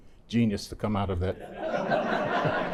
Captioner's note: laughter